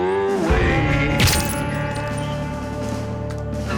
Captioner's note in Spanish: Disparo